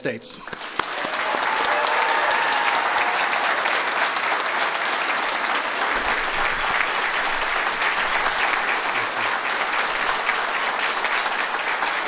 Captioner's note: applause